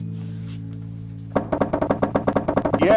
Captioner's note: knockity-Knocks